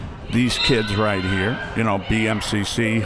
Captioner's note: whistle